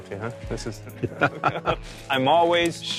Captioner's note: laughs